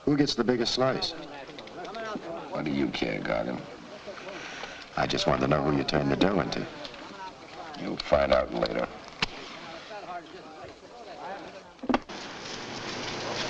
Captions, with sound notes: Who gets the biggest slice? - Why do you care, Gargen? - I just wanted to know who you turn the dough into. - You'll find out later. (strikes match)